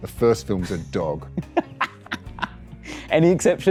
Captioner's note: laughs